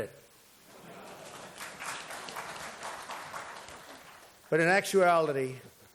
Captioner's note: applause